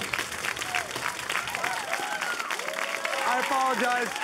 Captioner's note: applause